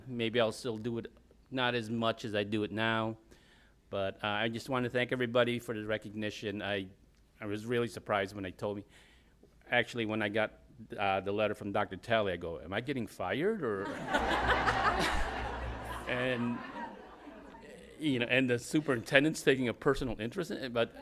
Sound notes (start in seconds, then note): 13.8 laughter